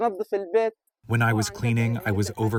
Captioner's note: through translator